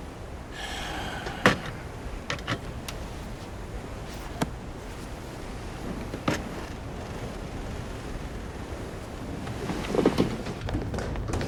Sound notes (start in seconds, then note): 0.4 sighing